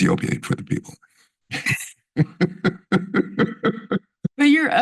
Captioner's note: laughs